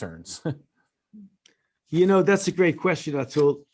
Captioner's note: laughter